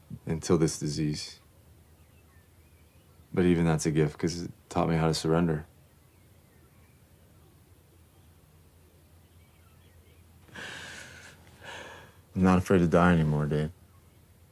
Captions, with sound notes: until this disease, but even that's a gift 'cause it taught me how to surrender. (Dayne crying) I'm not afraid to die anymore, Dayne.